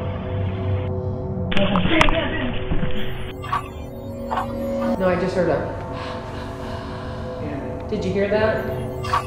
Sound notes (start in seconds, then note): 6.0 sighing